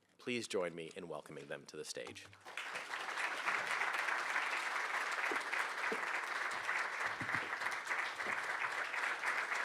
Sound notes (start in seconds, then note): 2.4 audience applauding